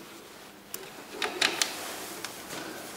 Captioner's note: clacking